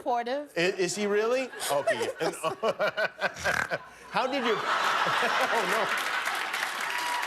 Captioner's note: laughter